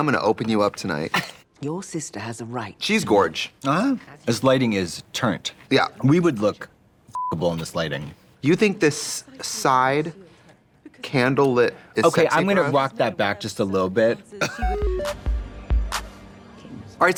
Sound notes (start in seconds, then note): 7.1 beep; 14.6 musical flourish